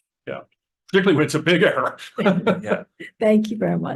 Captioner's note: laughs